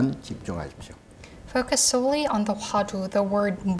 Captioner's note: speaking Korean; speaking Korean